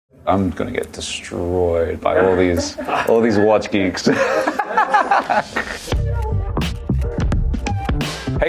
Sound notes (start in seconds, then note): 4.0 laughter; 5.9 hip, chill music